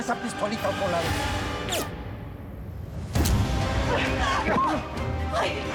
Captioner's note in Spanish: detonación de disparo